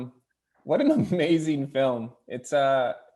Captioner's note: laughing